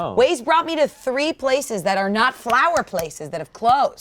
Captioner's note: none